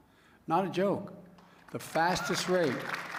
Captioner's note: applause